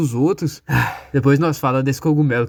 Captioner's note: sigh